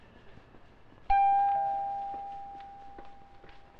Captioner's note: door bell